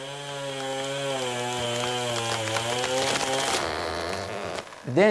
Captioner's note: chain saw buzzing